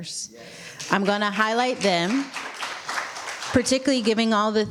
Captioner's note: applause